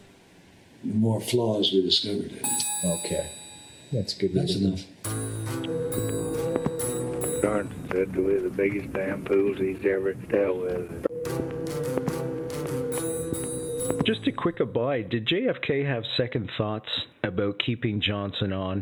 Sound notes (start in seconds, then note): 5.0 tense suspenseful music; 5.1 phone ringing; 11.1 tense suspenseful music; 11.1 phone ringing